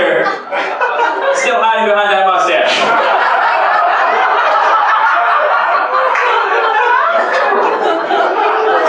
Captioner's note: laughter